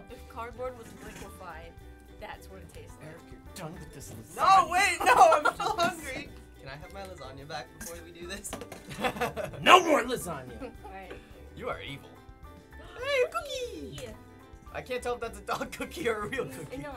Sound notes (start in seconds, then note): 3.3 agitated; 8.7 chuckles; 12.7 gasps